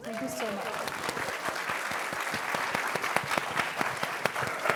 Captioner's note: applause